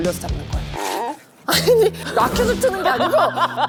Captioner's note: wringing Out